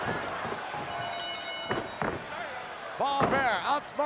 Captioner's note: bell dings